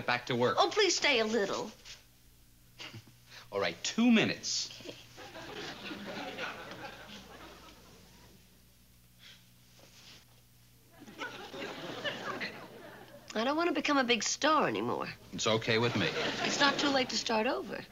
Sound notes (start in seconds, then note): 4.8 laughs